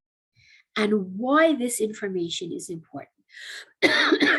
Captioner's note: cough cough